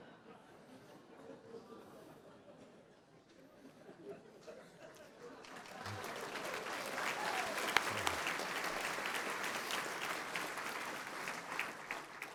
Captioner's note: laughter; applause